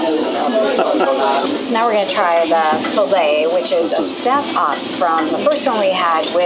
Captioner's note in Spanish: risas